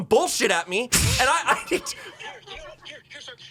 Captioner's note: laughs